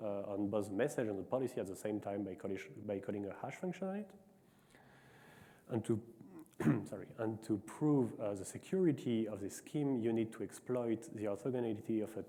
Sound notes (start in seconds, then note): 6.2 clears throat